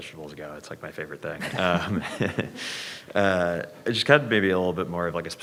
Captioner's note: chuckles